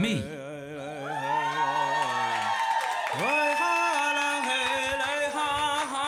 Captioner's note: powwow singing; audience cheering